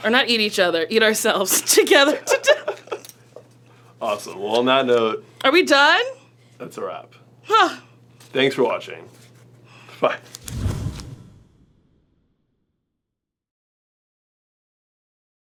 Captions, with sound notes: or not eat each other, eat ourselves together to death. (laughing) - Awesome, well, on that note-- - Are we done? - That's a wrap. - Huh. - Thanks for watching, bye. (thudding)